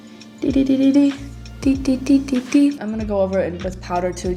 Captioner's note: tiny rapid beeps